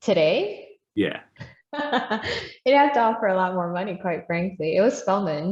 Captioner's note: laughs